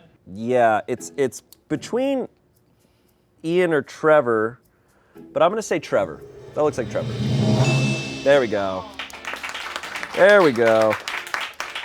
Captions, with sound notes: Yeah, it's between Ian or Trevor. But I'm gonna say Trevor. That looks like Trevor. (bell chimes) There we go. (crew applauds) There we go.